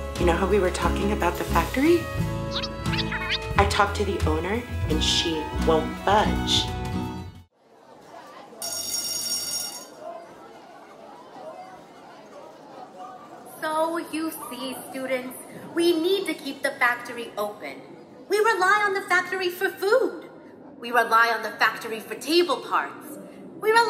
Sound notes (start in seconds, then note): 7.8 students chattering; 8.6 school bell rings